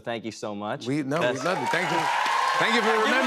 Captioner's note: cheers and applause